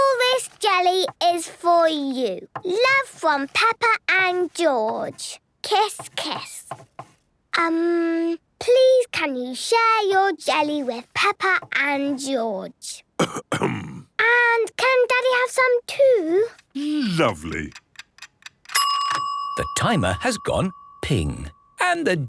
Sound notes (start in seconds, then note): 13.2 coughs; 17.3 dinging